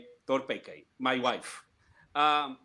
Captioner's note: speaking foreign language